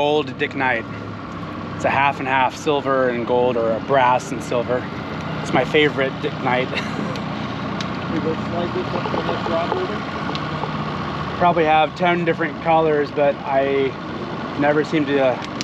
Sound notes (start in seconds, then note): 10.0 chuckling